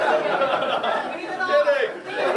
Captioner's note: laughter